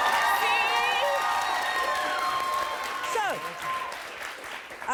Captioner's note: audience applauds